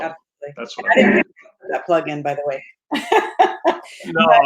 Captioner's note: laughs